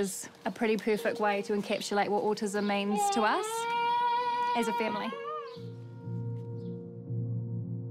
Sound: exclaims; stirring music

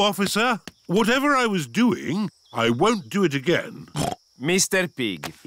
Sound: snorts

